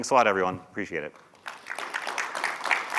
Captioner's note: applause